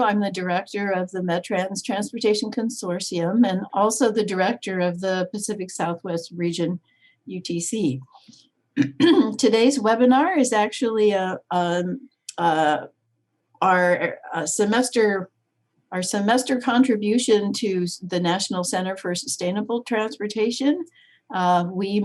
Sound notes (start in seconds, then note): 8.8 clears throat